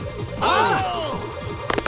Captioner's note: affirmative grunts